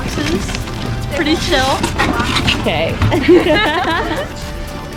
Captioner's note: laughter